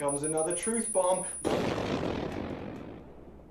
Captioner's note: explosion sound